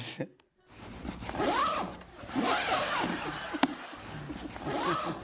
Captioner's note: zipper